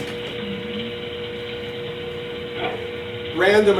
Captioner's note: servos humming